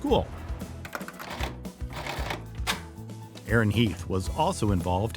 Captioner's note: keys clicking